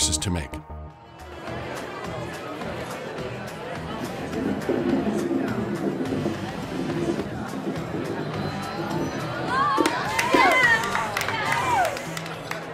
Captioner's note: crowd laughing and talking